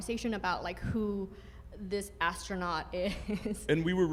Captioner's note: laughs